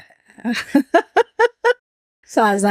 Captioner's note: laughs